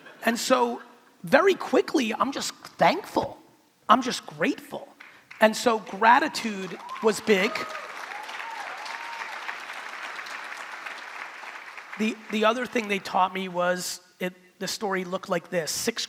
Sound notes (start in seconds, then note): 6.5 crowd clapping